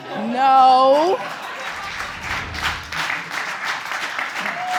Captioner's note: audience laughing and applauding